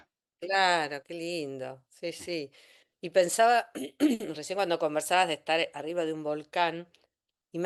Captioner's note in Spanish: carraspeo